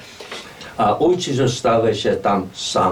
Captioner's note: speaking in Lemko dialect